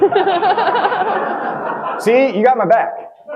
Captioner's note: audience laughing